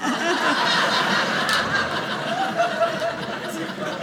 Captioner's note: audience laughing